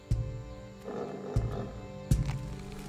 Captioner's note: growls; crunching